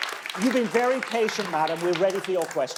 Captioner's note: audience clapping